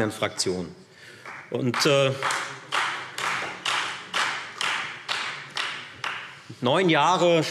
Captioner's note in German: Beifall Freie Demokraten